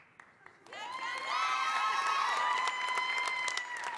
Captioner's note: applause